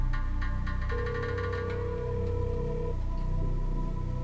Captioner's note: phone ringing